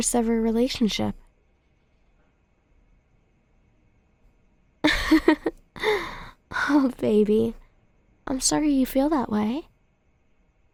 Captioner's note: soft laugh